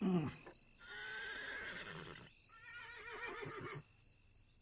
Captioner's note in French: Chants des grillons, hennissements